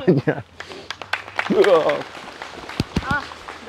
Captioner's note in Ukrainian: оплески